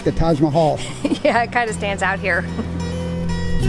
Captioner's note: laughs; mellow guitar music